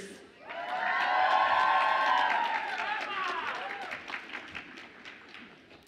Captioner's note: audience applauds and cheers